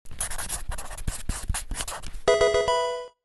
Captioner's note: pen scratching